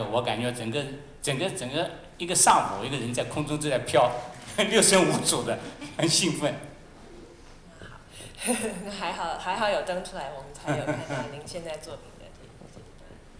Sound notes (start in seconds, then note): 4.5 laughter; 8.0 Mandarin; 8.4 laughter; 10.6 laughter